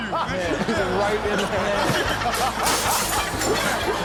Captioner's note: all laughing; glass shuttering; audience laughing